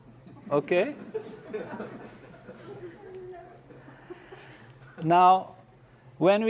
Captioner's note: laugh